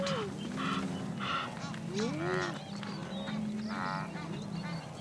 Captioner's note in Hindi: जानवरों की आवाज़ें